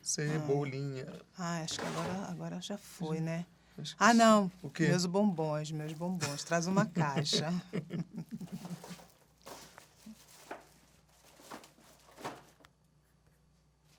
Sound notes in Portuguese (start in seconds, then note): 6.2 risos